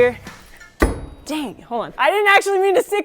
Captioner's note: ax striking